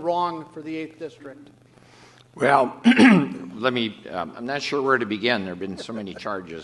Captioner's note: clears throat; laughter